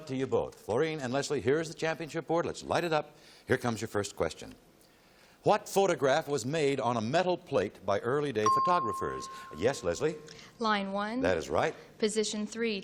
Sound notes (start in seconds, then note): 8.4 ping